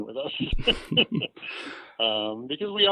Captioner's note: laughs